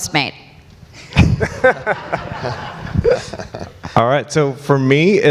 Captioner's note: audience and panelists laugh